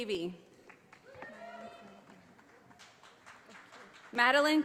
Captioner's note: audience applauding